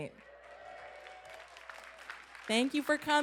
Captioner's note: applause and cheers